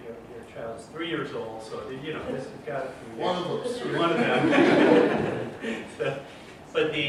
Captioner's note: laughter